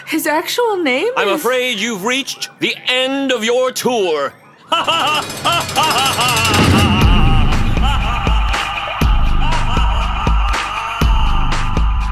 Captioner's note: echoing